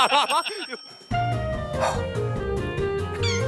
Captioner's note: sigh